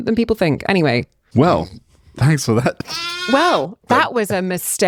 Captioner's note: baa